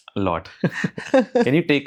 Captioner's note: laugh